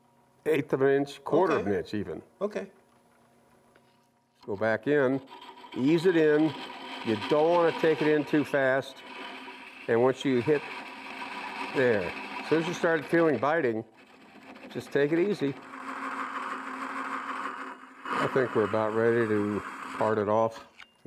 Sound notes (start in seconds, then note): 16.2 machine whirring